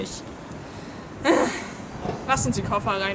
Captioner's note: sighs